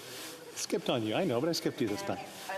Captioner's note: speaking French